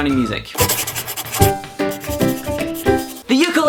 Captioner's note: pencil writing